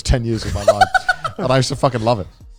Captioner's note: laughs